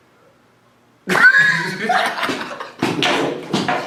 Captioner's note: laughing